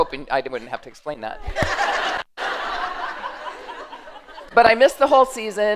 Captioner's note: laughter